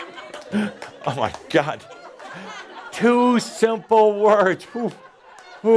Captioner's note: more laughter